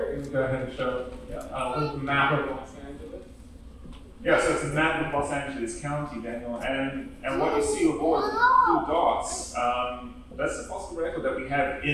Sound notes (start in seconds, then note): none